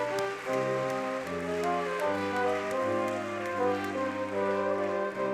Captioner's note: audience clapping